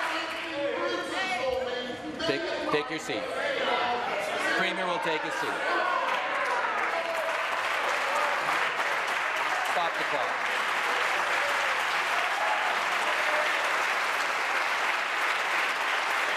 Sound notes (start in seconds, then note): 0.0 applause; 10.9 applause